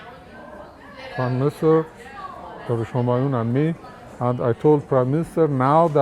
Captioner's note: children shouting